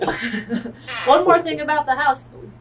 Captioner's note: laughter